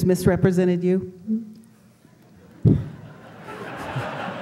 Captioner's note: laughter